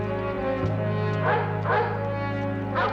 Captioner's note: dogs barking